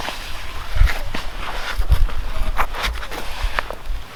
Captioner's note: log shifting